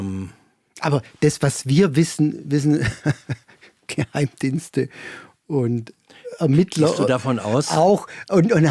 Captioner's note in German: gelächter